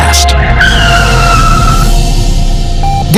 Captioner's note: screeching tires